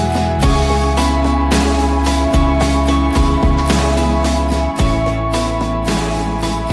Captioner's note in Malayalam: കരഘോഷം